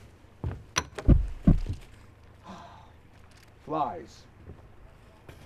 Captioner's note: heart beats stop